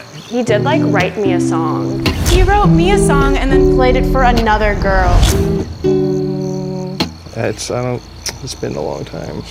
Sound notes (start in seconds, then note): 5.2 humming